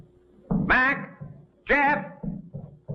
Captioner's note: shouting